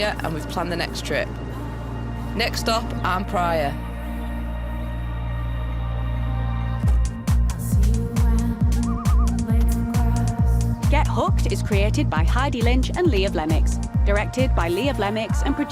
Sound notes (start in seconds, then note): 6.7 trunk closes; 8.1 upbeat music